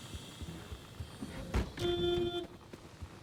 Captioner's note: needy honking